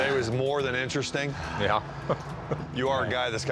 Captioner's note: chuckles